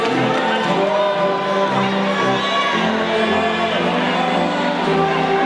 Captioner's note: audience faintly shouting